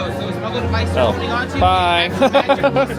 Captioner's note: laughing